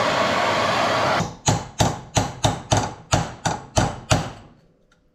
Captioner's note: hammering